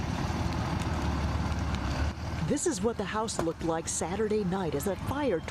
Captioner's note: nats of flames